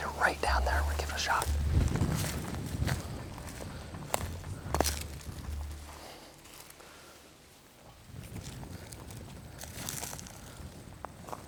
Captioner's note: whispering